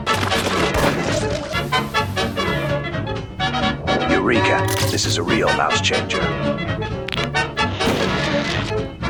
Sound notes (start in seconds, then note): 7.0 knuckles cracking